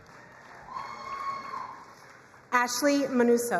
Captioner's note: crowd cheering and applauding